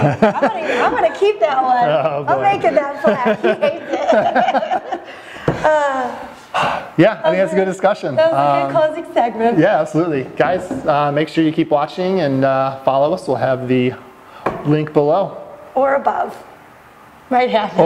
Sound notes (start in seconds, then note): 0.0 laughing; 5.1 heavy sigh